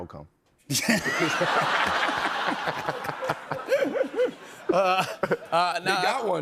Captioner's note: laughter